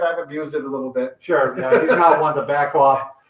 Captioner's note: laughs